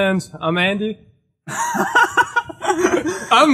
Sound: loud laughter

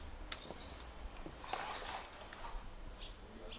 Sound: birds chirping

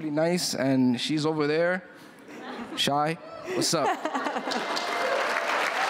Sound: applause

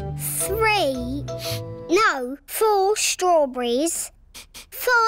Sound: sniffs

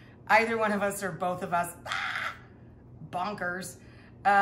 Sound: screeching noise

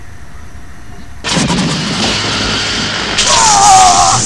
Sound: electricity zapping

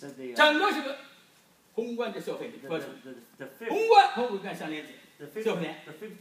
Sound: speaking foreign language

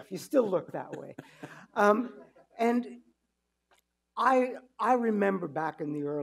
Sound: chuckling

